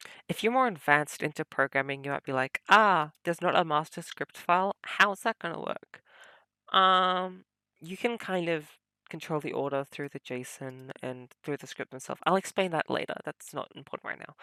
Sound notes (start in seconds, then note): none